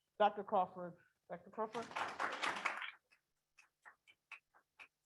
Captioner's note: people clapping